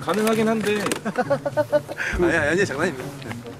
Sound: laughs

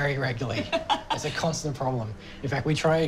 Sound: laughs

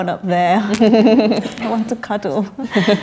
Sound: laughs; laughter

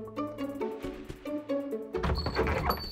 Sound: playful music; footsteps thumping; door squeaks open; bell rings

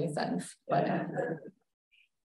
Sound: laughter

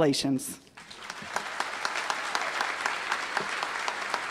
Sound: applause

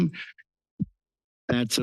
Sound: pause

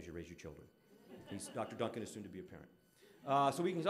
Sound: audience laughing

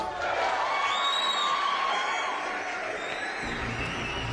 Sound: audience cheers

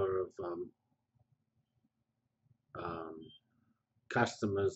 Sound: pause

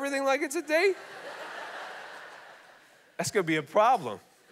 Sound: congregation laughing

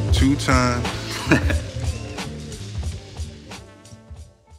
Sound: laughs

